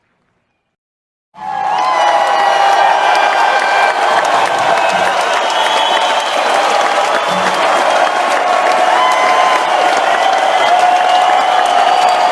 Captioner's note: crowd cheering